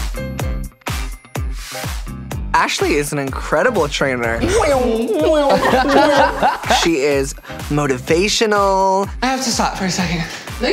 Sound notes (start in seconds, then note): 4.3 buzz; 4.4 laughs